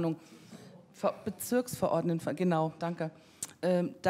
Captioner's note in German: jemand aus dem Publikum antwortet